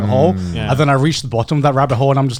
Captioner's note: affirmative murmuring